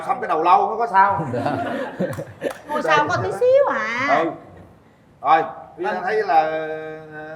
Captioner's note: laughter